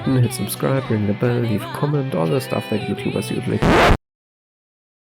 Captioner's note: record scratch